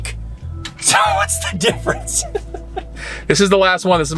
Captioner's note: laughing